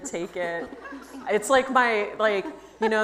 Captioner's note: audience laughs